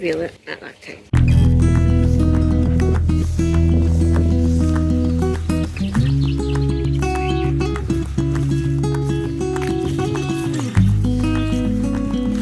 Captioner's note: applause